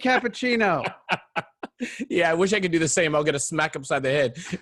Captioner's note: laughing